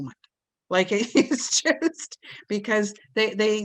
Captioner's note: giggles